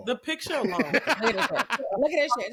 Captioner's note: laughs